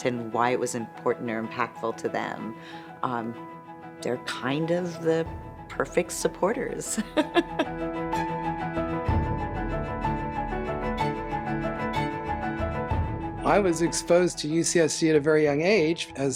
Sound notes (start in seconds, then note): 7.0 laughs; 8.5 bright orchestral music